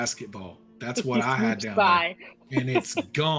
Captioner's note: laughs